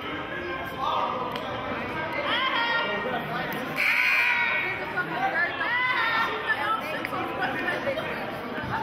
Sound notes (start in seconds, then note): 3.8 buzzer sounding